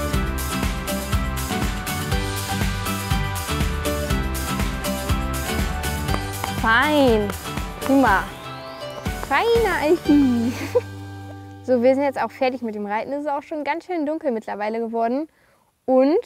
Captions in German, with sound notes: Fein. Prima. (kichert:) Feiner Alfi. So, wir sind jetzt auch fertig mit dem Reiten. Es ist auch ganz schön dunkel mittlerweile.